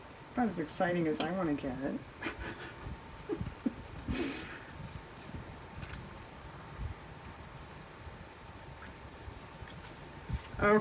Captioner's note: laughs